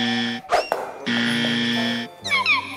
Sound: shoe drops

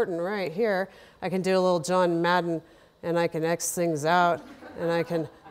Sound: laughter

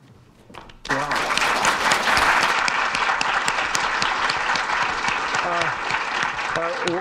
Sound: audience applauding

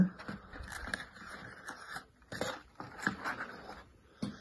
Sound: cardboard rustling

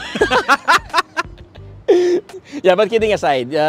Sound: continue laughing

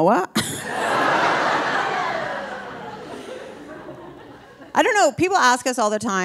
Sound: laughs; audience laughing

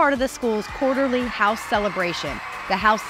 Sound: students cheering

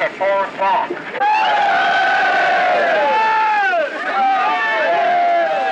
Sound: resident cheering

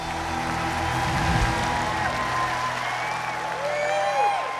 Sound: crowd cheering

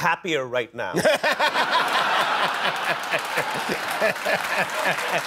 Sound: laughter

